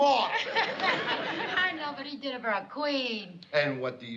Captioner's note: laughs